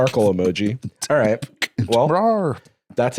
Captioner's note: beatboxes